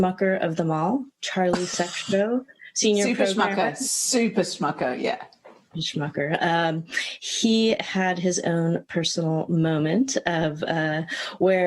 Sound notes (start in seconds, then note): 2.3 laughs